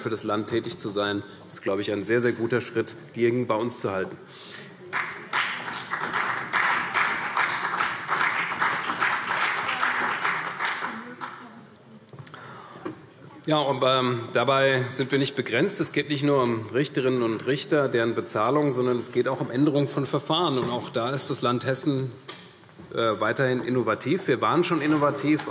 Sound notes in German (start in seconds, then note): 4.8 Beifall CDU und vereinzelt BÜNDNIS 90/DIE GRÜNEN